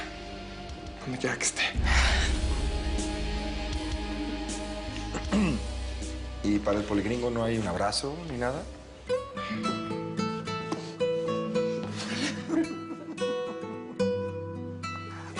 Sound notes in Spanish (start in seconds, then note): 5.1 Dóriga carraspea; 12.0 Risas